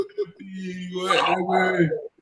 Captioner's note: chuckles